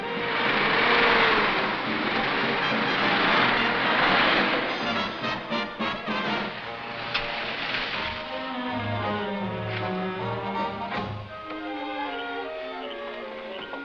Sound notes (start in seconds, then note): 0.0 motor revs; 8.7 melodic music